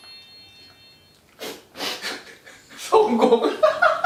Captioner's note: laugh